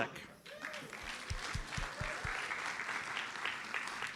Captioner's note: audience applauds